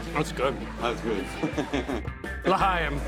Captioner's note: laughing